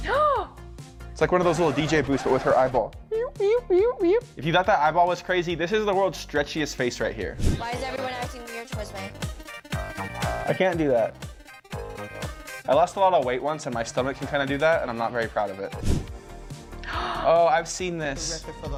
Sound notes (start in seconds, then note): 0.1 gasps; 3.6 scratching; 16.8 gasps